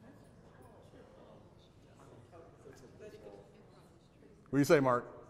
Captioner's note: audience murmurs